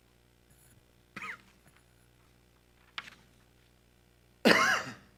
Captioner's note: board member coughing